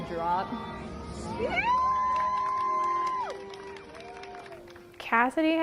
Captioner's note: crowd applauding